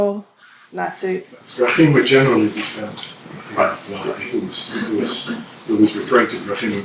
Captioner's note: hebrew